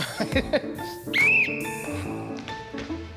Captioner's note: audience tittering; laughing; circle slapping on floor; Alex blows whistle; laughing